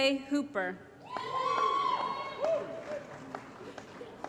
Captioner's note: applause & Cheering